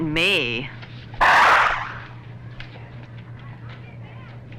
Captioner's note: door whooshes